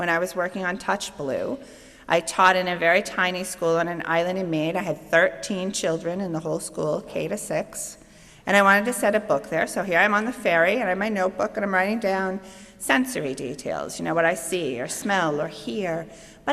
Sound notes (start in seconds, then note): none